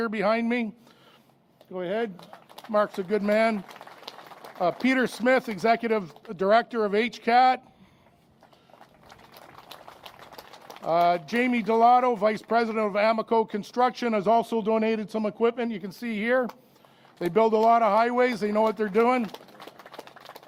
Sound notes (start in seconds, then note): 5.9 applause; 8.4 applause